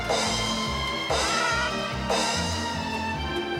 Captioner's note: squawks